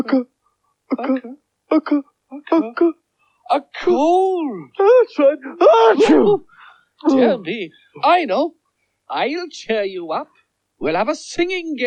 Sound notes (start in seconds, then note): 5.5 sneezes